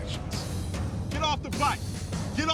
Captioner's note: yelling